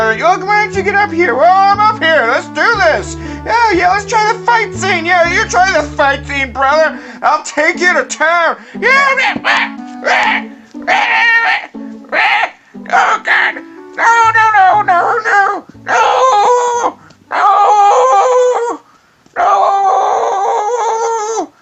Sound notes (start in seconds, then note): 10.9 screaming